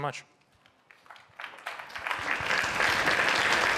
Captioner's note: applause